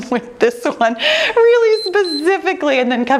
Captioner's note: timer beeps